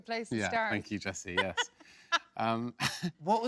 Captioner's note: laughs